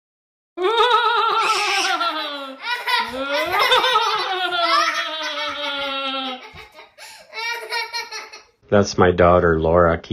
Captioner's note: scary noises and child giggling